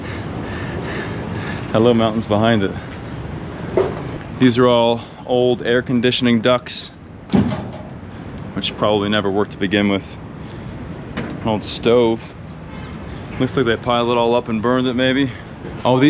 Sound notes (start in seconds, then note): 0.0 heavy breathing; 7.3 duct rattling